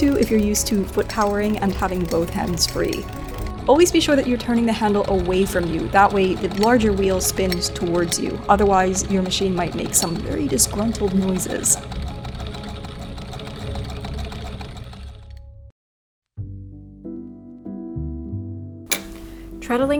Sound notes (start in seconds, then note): 3.2 wheel clacking; 16.5 piano music